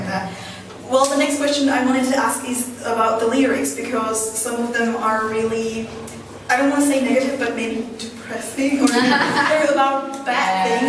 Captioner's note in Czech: smích